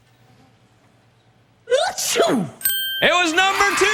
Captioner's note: cheering